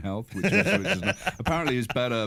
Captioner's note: laughs